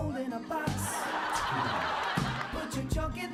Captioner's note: audience cheering